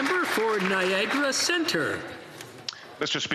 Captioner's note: some Applause